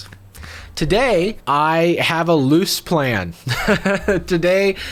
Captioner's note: laughing